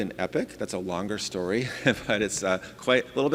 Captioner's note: laughing